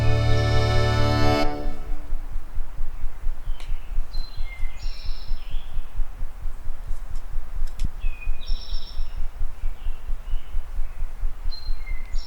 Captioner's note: birds chirping